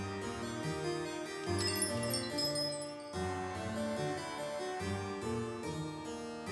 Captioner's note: ding Dong